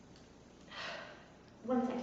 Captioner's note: sighs